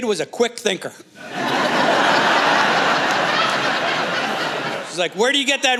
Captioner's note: laughter